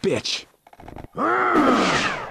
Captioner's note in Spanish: Coach se queja